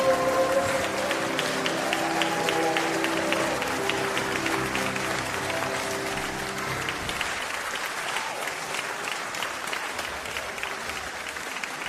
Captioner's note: applause